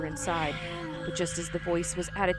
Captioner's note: ghostly voice all around